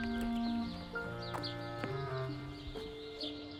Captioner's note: birds chirping